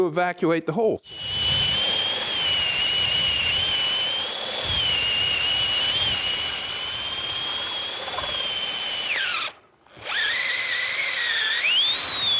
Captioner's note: machine buzzing